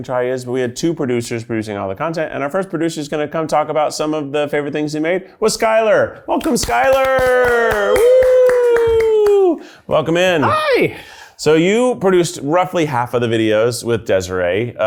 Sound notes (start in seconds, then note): 6.4 everyone claps happily; 6.7 everyone cheers loudly